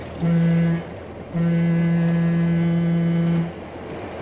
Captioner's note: train whistle blows